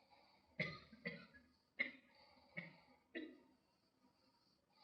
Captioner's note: student coughing